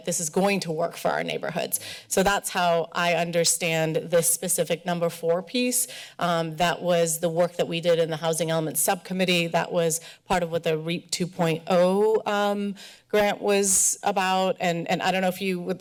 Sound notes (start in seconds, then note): none